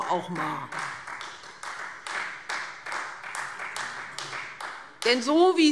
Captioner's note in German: Beifall Freie Demokraten